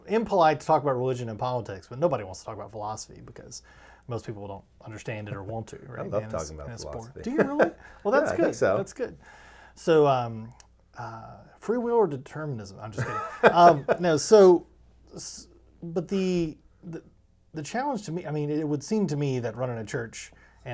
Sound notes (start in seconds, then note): 7.2 laughing; 13.0 laughing